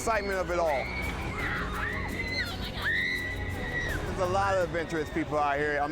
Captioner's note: screams